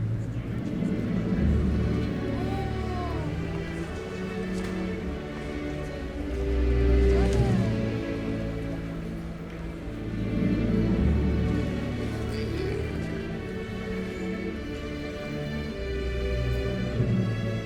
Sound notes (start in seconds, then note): 0.1 emotional music; 12.0 speaking in a foreign language